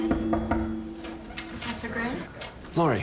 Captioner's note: knocking